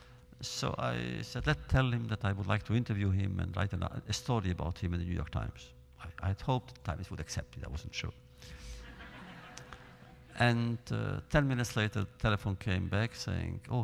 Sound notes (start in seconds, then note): 8.8 laughter